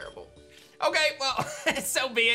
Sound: chuckles

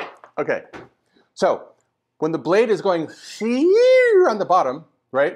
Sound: funny noise

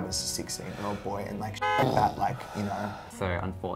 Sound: car honks

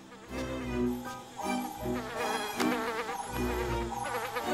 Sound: fly buzzing

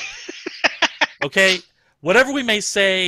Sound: laughter

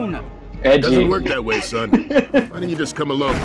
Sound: laughs

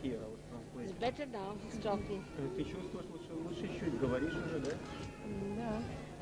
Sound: russian; russian

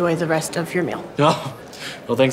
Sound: laugh

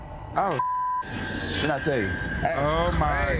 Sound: beep

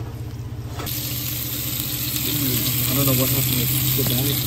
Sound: burgers sizzling

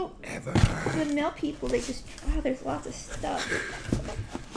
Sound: laugh

